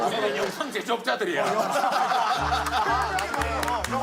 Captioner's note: laughing